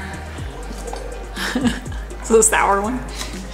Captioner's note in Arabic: يضحك